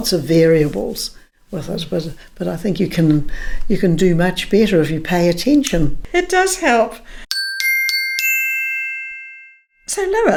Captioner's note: bell rings